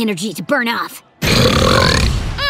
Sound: burping

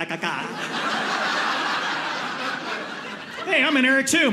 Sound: audience laughing

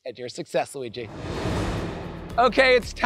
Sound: graphics whooshing

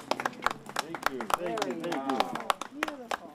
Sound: applause

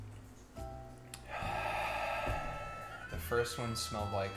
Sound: loud exhale

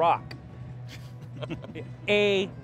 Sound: laughs

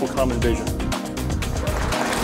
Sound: cheers, applause

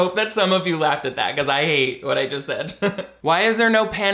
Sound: laughs

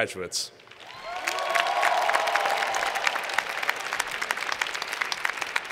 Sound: cheers and Applause

